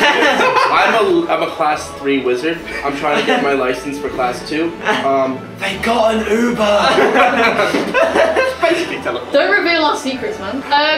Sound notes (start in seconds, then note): 5.5 whispered; 6.8 laughter